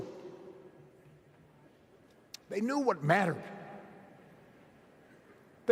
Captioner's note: none